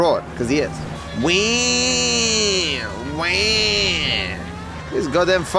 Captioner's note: imitates old police siren